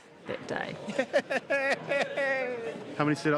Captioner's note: laughing